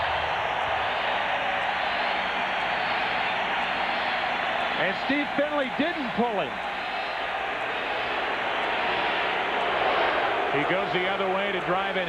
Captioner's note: cheering